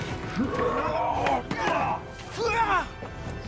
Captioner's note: grunting